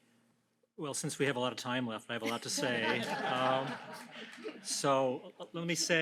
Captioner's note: laughter